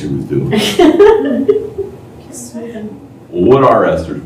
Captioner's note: laughter